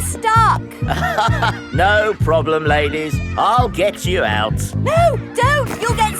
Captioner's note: chuckles